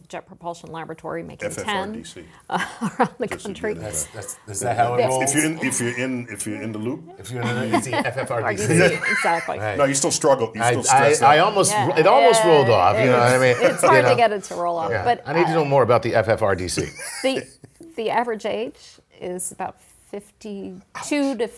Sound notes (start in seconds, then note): 13.2 laugh